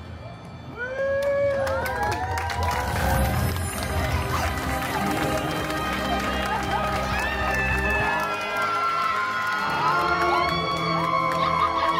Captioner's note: guests cheering and applauding